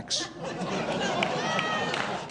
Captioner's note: audience laughs